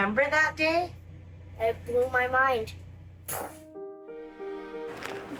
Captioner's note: mimics explosion